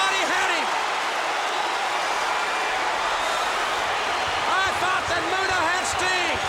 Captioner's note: applause